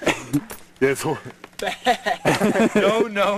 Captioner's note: laughter